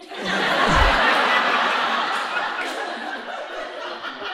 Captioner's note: audience laughing